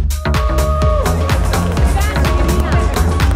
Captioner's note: cheering